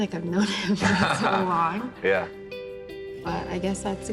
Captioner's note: laughs